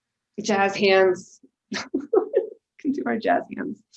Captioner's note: laughing